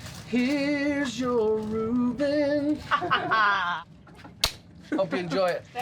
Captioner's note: laughter